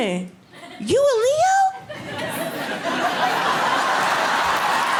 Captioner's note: audience laughing